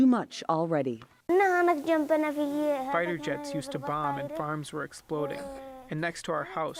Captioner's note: through translator